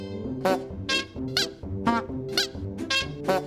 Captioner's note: honking